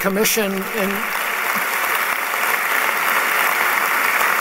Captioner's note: applause